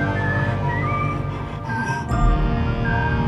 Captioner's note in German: Leises Grollen